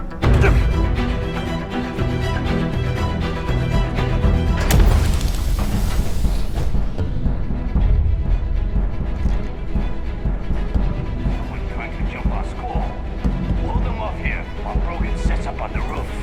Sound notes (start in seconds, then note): 1.2 grunts